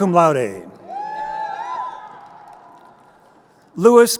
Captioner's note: crowd cheering